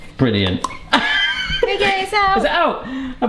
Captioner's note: laughing